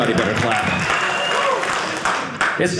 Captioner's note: audience applauding